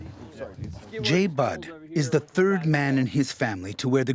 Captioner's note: voiceover